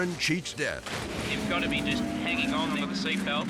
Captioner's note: car imploding